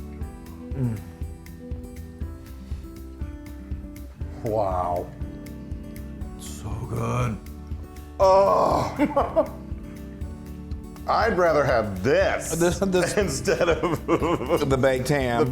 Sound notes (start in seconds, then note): 8.5 laugh; 13.4 laugh